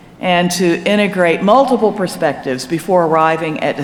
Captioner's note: none